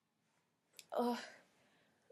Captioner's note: exasperated groan and facepalm